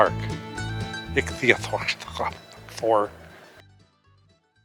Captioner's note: mumbles playfully